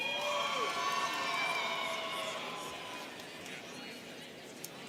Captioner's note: students cheering